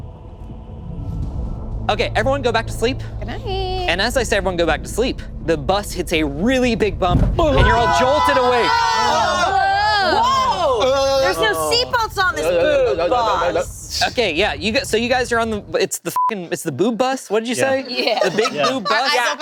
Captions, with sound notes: Okay, everyone go back to sleep. - Goodnight. - And as I say everyone go back to sleep, the bus hits a really big bump and you're all jolted awake. (group exclaiming) - Whoa, there's no seat belts on this boob bus. - Okay, yeah, so you guys are on, it's the (beep), it's the boob bus. What did you say? - Yeah. - The big boob bus.